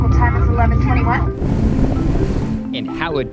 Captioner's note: water rushing